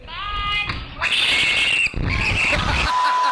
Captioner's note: screaming; laughter